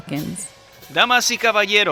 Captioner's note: speaking Spanish